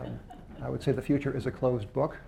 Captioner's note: laughter